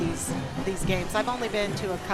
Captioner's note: crowd chattering